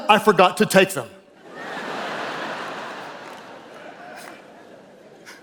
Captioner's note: audience laughing